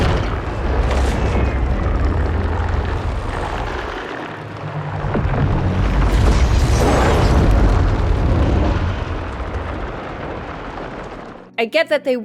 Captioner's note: impact sounds, ship taking off